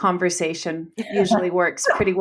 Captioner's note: laughs